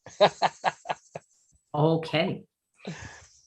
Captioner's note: laughing